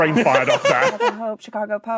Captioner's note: guffaws